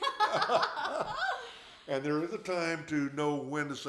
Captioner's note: both laughing